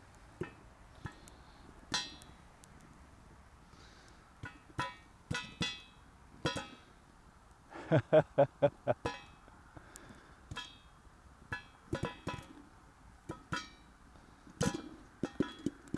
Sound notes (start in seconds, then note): 1.4 popping sounds